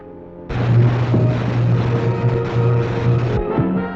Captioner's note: zapping